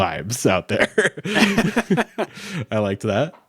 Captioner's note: both laughing